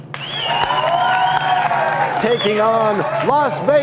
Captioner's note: cheers and applause